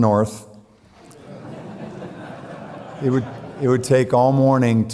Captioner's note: audience laughing